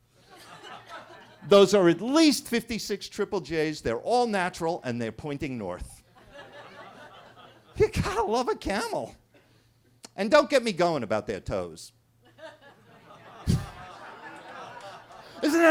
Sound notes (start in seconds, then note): 0.3 attendees laughing; 6.1 attendees laughing; 12.4 everybody laughing